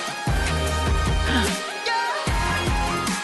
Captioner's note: gasp